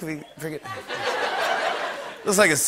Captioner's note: laughter